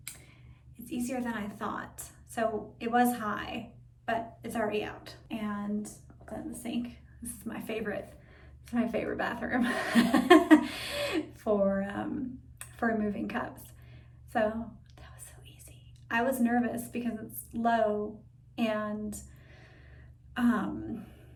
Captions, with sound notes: It's easier than I thought, so it was high, but it's already out. And put that in the sink. This is my favorite bathroom (laughs) for removing cups. So that was so easy. I was nervous, because it's low and no stem,